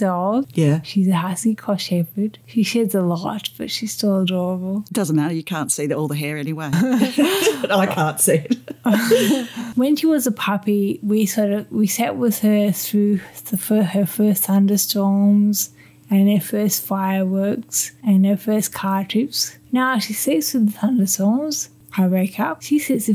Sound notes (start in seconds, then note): 9.2 laughter